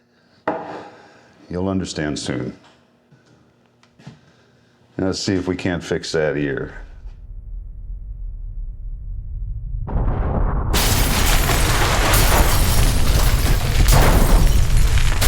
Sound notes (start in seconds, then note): 0.2 setting down glass; 9.6 explosion; 10.7 glass shattering